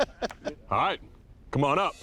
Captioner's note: laughter